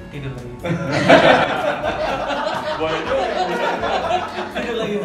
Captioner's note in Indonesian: tertawa